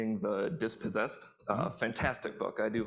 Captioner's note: none